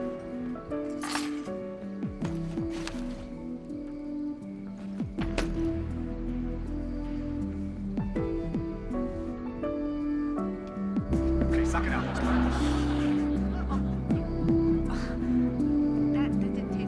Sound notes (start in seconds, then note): 2.6 sighs